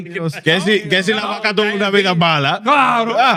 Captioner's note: speaking In Foreign Language